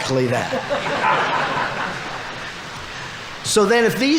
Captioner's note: audience laughing